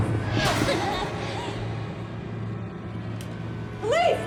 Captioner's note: voices whispering; figure whooshing